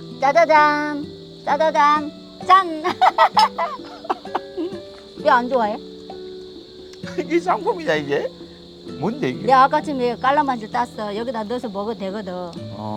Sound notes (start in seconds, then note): 2.8 both laughing